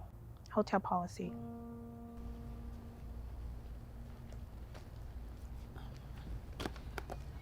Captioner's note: gentle music; material rustling